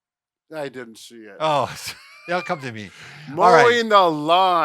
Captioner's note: laughing